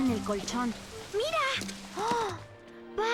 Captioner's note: gasps